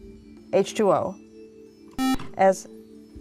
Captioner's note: buzzer